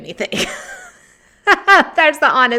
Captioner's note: laughs